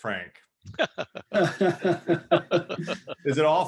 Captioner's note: laughing